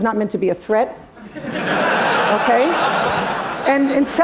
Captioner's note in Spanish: Risas